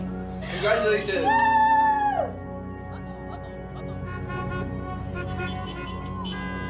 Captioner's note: car horns honking